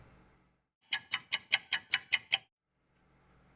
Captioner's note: ticking clock